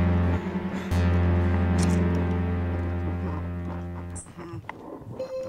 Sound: flesh squelching

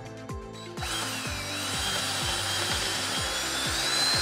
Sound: drill whirring

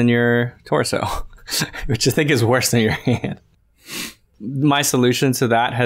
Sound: chuckles

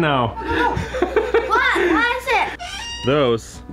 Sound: laughing

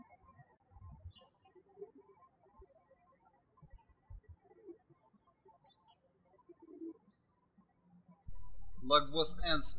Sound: birds chirping

